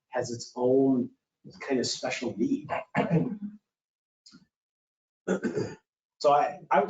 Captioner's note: clearing throat